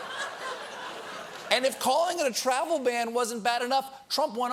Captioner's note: laughter